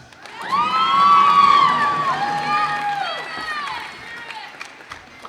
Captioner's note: cheers and applause